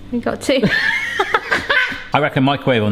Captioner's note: laughs